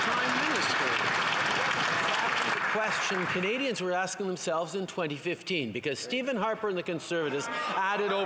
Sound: some Applause

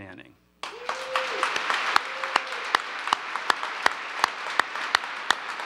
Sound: applause

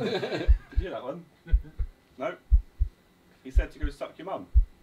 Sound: heart beating

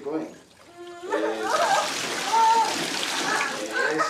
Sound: water splashing

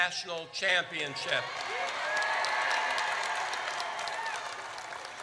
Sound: audience cheers

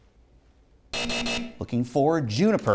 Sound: buzzing

